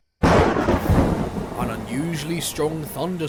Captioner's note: thunder and lightning